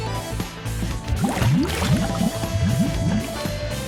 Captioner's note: glug glug